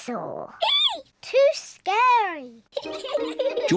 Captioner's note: giggles; both giggle